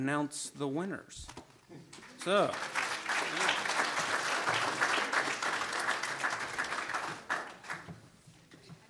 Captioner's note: audience applauds